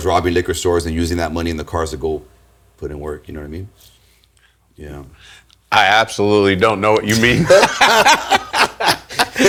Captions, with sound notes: robbing liquor stores, and using that money in the cars to go put in work, you know what I mean? Yeah. I absolutely don't know what you mean. (laughing)